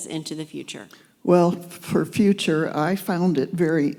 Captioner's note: voiceover